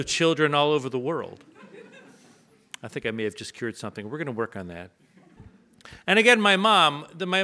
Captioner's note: audience laughs